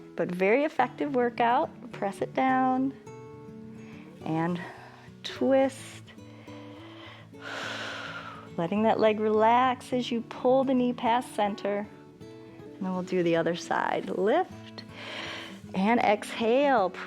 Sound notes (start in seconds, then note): 6.3 inhales and exhales